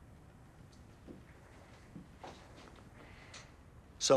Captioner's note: footstep